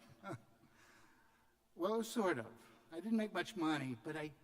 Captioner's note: laughter